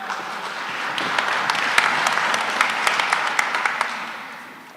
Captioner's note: applause